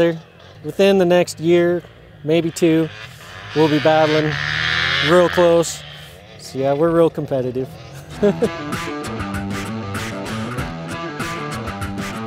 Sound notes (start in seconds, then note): 2.5 motorbike engines roaring; 7.8 laughs; 8.2 upbeat rock music